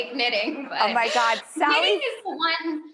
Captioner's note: giggles